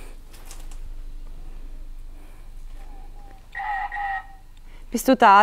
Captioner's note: footsteps and wind in the background